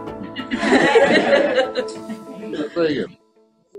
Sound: pupils laugh

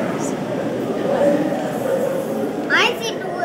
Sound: distant bird call recording

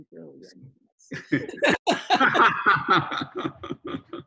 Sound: both laughing

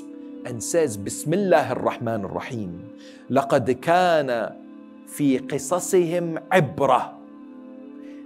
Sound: Arabic

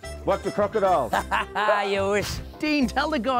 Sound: laughs

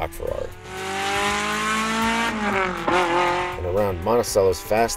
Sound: car engine revving

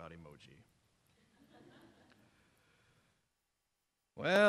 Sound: laughter from audience

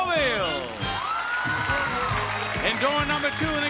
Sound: audience cheering

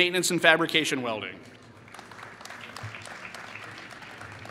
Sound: applause

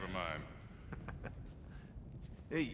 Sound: laughs

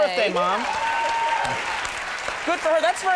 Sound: audience applauds

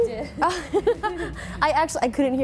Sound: both laughing

